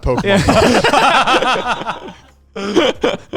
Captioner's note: all laughing